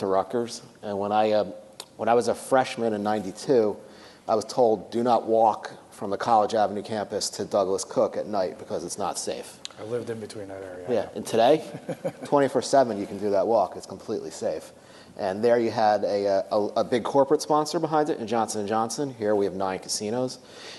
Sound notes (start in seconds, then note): 11.6 laugh